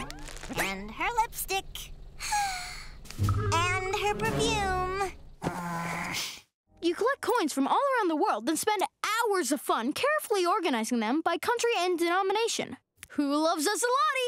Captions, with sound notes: And her lipstick. [sighing] And her, perfume. You collect coins from all around the world, then spend hours of fun, carefully organizing them by country and denomination. Who loves a zloty?